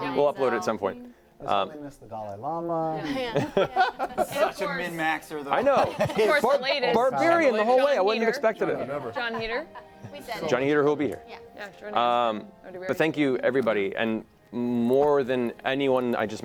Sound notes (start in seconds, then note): 3.0 laughter